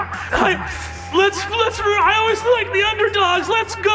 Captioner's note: stammering